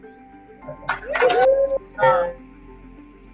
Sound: cheering

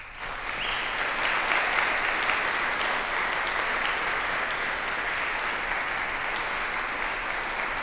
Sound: applause

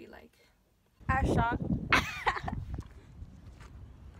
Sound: laughs

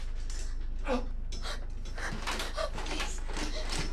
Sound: gasps

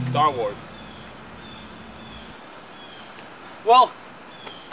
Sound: birds chirping

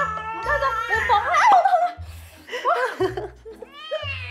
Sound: cat meowing; screams in pain; angry meowing

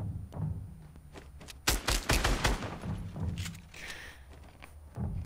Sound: gunfire

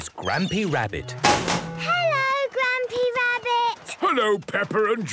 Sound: chrashing

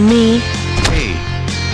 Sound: stomping

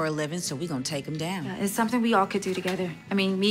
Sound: none

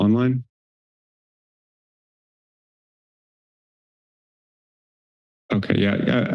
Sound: pause

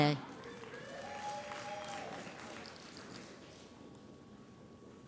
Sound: audience applauds

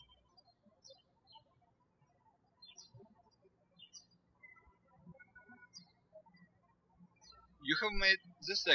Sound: birds chirping

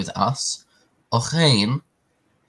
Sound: Hebrew

